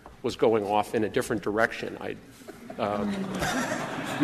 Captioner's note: laughter